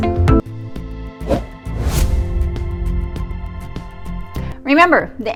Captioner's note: logo whooshing